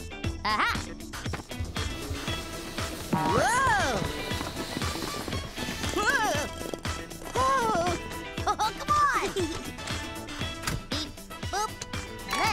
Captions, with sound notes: - Ah-ha! - Whoa! Whoa, whoa! (laughing) - Come on! - Beep, boop!